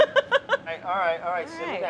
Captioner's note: laughs